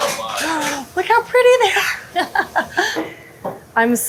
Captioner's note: chuckles